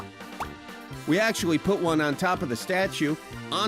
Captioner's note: popping